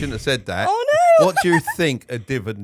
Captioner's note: laughing